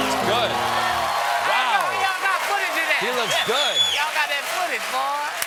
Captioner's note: piano riff; cheers and applause